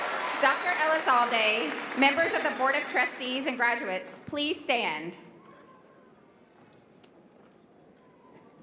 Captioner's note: cheering and applause